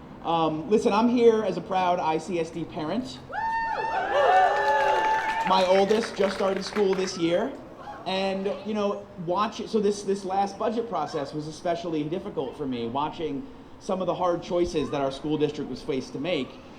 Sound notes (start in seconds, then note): 3.8 applause